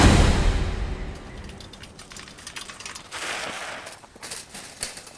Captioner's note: birds chirping